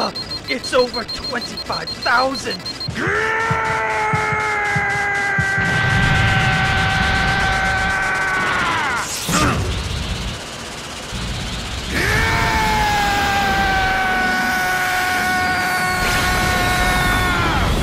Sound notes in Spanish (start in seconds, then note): 2.7 Grita enfadado; 9.1 Gruñidos; 11.6 Grita enfadado